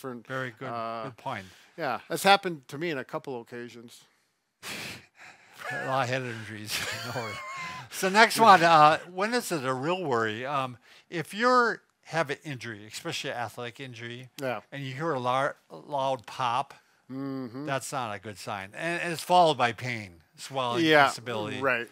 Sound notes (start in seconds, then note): 4.7 chuckles